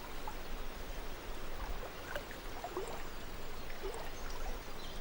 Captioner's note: water slowly flowing